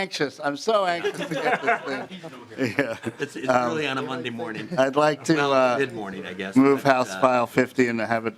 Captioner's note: laughing